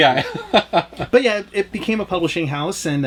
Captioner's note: laughs